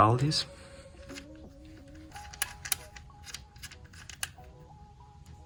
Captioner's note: bus bar clicking